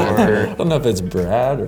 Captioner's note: laughter